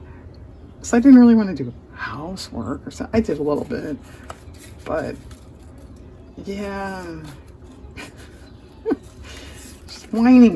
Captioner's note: laughs